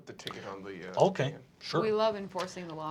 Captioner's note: deep voice